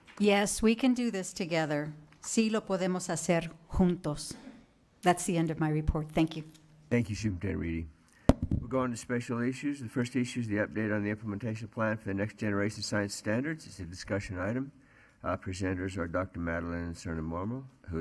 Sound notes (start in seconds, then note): 0.0 attendees clapping; 2.6 foreign language; 7.3 foreign language